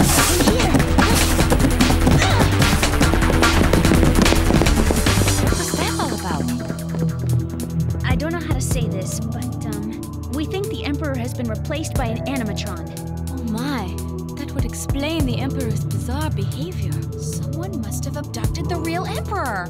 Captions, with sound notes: Girls, in here, quick. [grunt] What was that all about? I don't know how to say this, but, um, we think the Emperor has been replaced by an animatron. Oh, my, that would explain the Emperor's bizarre behavior. Someone must have abducted the real Emperor.